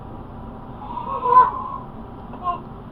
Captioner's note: lamb baaing